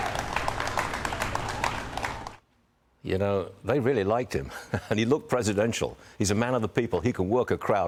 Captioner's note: applause; cheers and applause